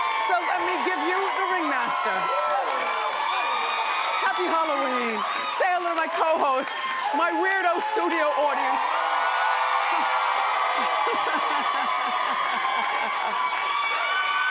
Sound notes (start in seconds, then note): 2.0 cheering; 8.9 cheering; 10.6 laughing